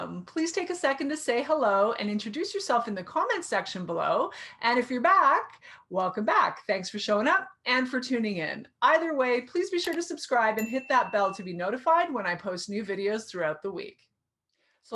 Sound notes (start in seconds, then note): 10.3 keyboard clicking; 10.6 bell dings